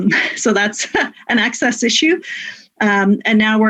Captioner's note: laughs